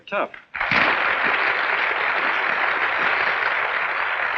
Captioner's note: applauding